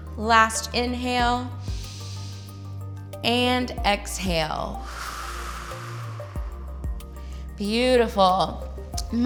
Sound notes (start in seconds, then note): 1.6 inhales; 4.8 exhales